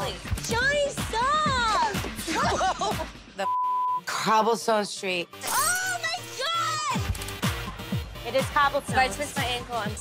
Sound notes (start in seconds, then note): 2.2 laughs; 3.4 beep; 5.5 glass breaks; 6.9 upbeat music